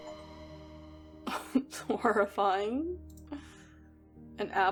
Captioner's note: laughs